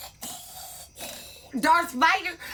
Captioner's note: Vader-breathing